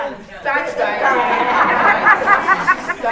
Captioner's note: laughter